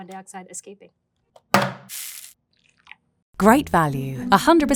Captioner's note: can thudding and coffee pouring